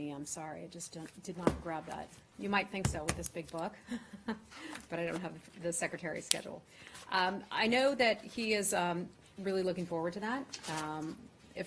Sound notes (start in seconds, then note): 3.9 laughter